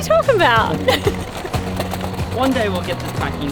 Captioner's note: laughing